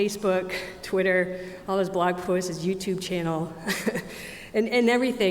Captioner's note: chuckles